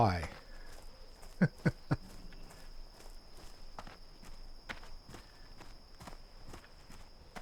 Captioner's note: laughs